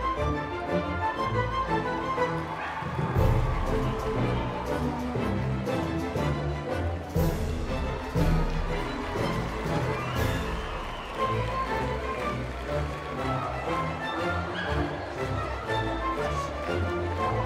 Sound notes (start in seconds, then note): 0.1 whimsical music continues; 3.0 crowd cheering and clapping; 10.1 crowds cheering and clapping; 13.5 whimsical music continues